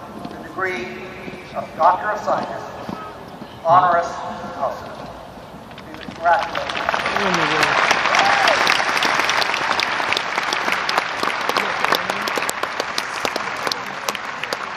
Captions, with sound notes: Washington is proud to confer on you the degree of Doctor of Science. Congratulations. [ APPLAUSE ]